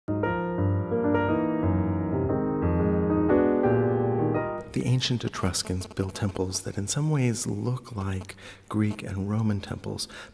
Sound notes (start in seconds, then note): 0.1 jazzy music; 4.7 voiceover